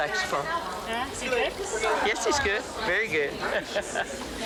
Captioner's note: laughing